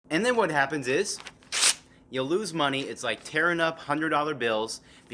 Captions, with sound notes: - And then what happens is [Paper Tears] you lose money it's like tearing up hundred dollar bills